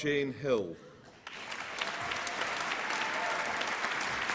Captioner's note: applause